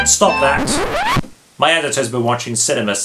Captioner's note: record scratches